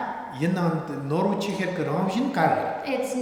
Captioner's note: speaking tibetan